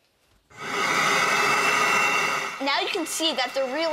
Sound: loud vacuum whirring

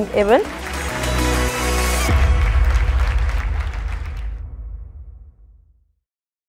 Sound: adience applauding; upbeat music

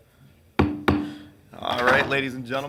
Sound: gavel pounding

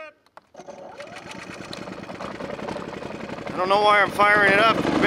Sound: machine rumbles

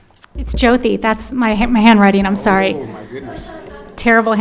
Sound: audience laughs

